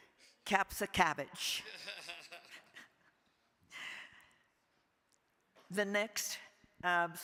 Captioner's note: laughing